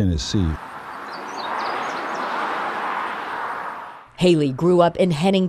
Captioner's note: car drives